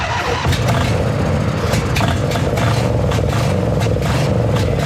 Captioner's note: engine Starts on Ether